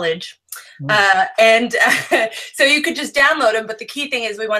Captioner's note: laughs